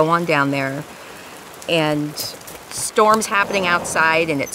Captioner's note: rain falling